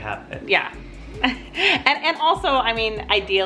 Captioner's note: laughs